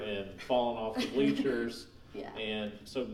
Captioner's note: laughing